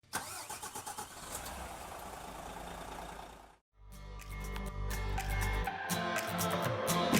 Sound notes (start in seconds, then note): 0.0 car engine starting; 3.9 upbeat music